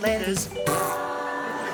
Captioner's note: fart